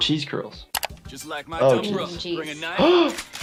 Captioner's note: gasps